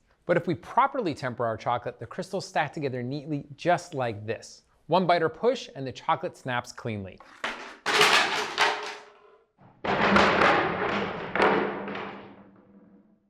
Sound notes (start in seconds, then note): 7.2 chairs thudding